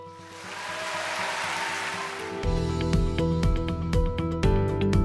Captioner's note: applause